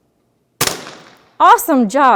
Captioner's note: gun firing